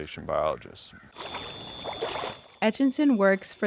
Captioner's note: water burbling